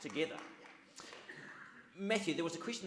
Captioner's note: audience claps